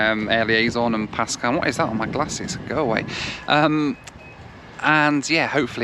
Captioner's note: laughs